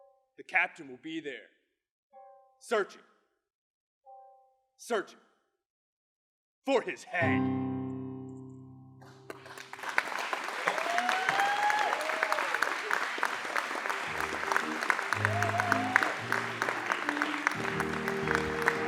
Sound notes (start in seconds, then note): 9.9 applause; 9.9 cheering